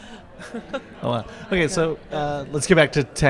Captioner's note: laughs